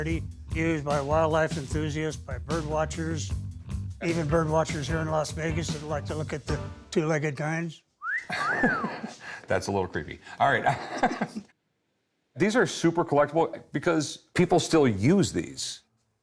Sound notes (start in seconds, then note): 8.0 wolf whistle; 8.2 laughs